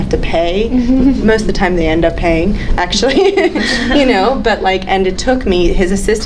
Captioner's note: laughs